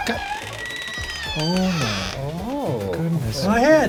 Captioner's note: door creaking